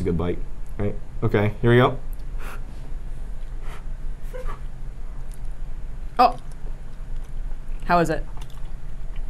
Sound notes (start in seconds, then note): 2.4 blowing loudly